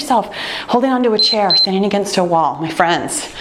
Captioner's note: timer beeping